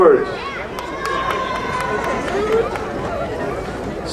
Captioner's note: crowd cheering